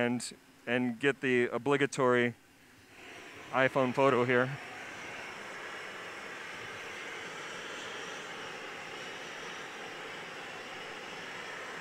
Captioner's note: sound of blowtorches